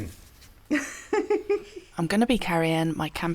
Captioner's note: nervous giggle